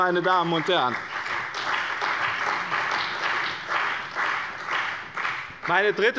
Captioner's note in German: Beifall bei dem BÜNDNIS 90/DIE GRÜNEN und der CDU